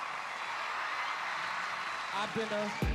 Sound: cheering continues

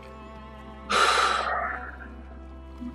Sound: sighs

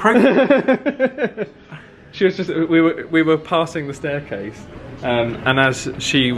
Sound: laughs

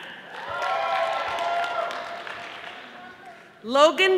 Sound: audience applauding

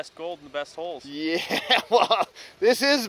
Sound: chuckles

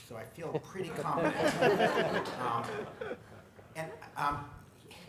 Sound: laughter

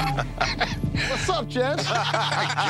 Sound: laughter

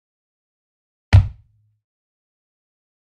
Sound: sound of heavy stomp

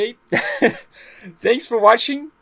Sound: scoffs

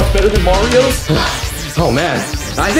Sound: Mario sighing

